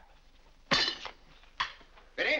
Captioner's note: silverware clangs